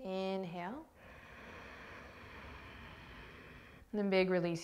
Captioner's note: inhaling